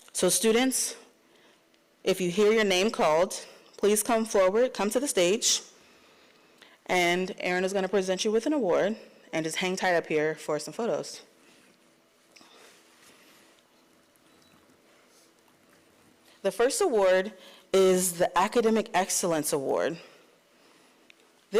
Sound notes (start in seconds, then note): none